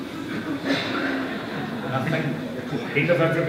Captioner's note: laughter